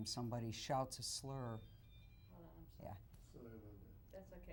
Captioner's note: crew member cellphone rings